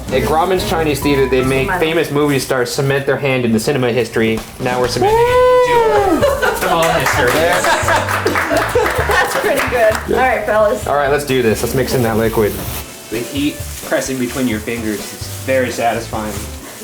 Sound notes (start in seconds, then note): 5.0 loud tooting sound; 7.1 applauding loudly